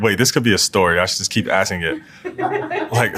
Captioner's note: laugh